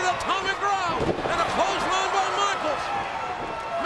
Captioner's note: audience cheering; body thuds